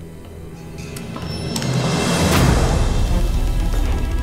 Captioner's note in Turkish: Kapak açılma sesi